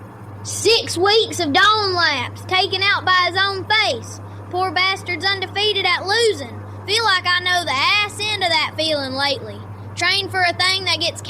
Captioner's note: breath